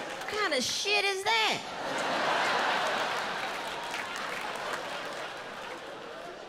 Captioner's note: audience laughs